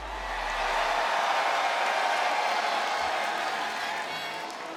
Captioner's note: crowd cheers